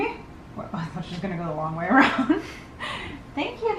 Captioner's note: laughs